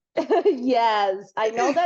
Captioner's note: laughs